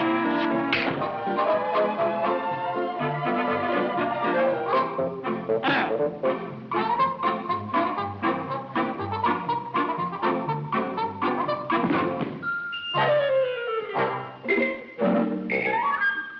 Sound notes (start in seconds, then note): 0.2 lips smack; 0.7 hand slaps; 8.5 cheerful music continues; 11.8 body slams; 13.5 tense music